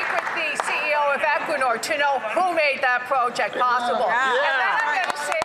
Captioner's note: some Applause